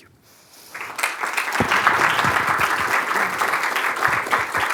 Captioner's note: applause